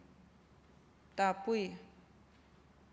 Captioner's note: non-english speech